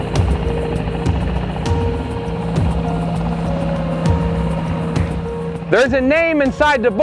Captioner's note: boat engine rumbling; calm music